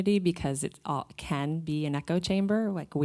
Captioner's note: none